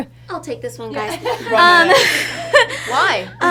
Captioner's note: all laugh